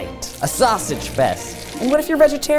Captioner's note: sausages sizzling